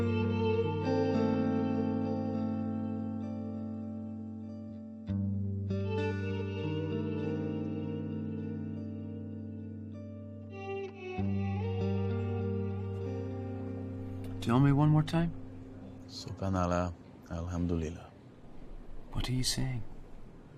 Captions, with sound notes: Tell me one more time. [praying in foreign language] What are you saying?